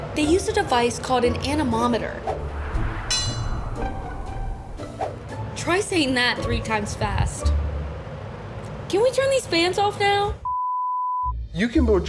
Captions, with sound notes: - They use a device called an anemometer. (image whooshing) (bell dinging) Try saying that three times fast. Can we turn these fans off now? (beep)